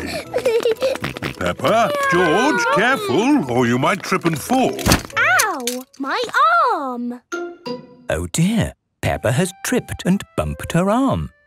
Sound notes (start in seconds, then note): 4.7 thumps